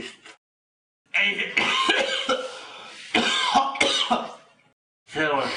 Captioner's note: cough